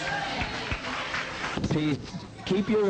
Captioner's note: congregation clapping